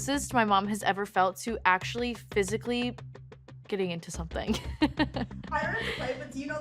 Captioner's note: laughs